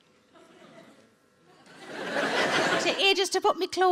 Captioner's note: audience laughing